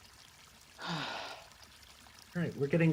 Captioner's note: soft sigh